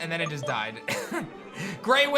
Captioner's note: chuckles